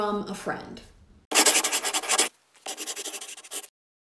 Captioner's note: scribbling